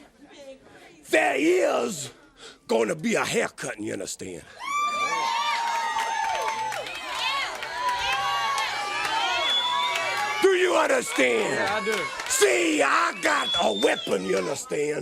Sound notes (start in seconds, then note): 4.5 crowd cheering